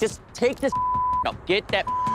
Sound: beep

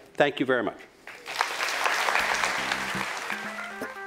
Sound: applause

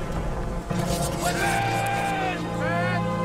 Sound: swords unsheathing

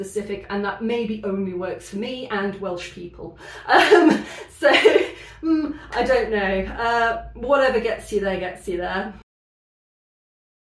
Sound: laughing

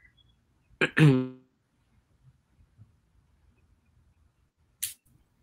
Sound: clears throat

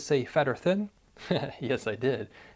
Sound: chuckles

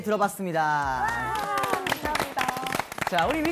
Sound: big applause

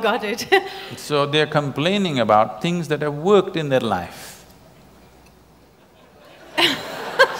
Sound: laughter

